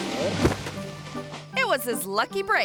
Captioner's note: whimsical music; body thuds